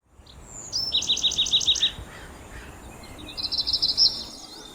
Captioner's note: birdsong